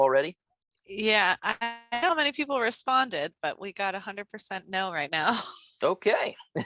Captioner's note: laugh